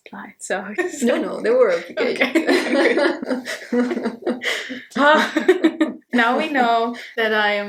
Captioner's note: both laugh; sighs in relief 😅